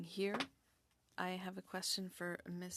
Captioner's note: speaking French